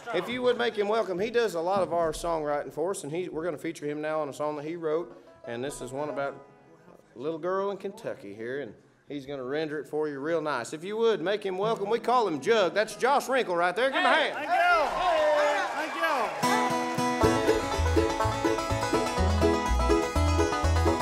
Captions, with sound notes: If you would make him welcome, he does a lot of our songwriting for us and we're gonna feature him now on a song that he wrote and this is one about a little girl in Kentucky here and he's gonna render it for you real nice. If you would make him welcome, we call him Jug. That's Josh Rinkel right there, give him a hand. (audience cheers) - Thank you. (upbeat bluegrass music)